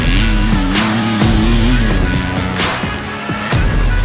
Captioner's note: engine revving